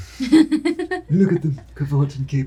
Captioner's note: laughing